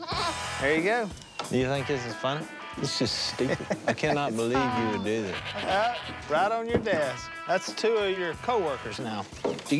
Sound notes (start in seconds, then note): 2.8 laughs